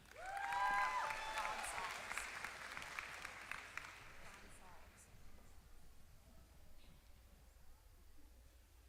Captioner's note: applause